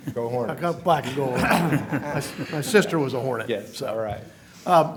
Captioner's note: laughter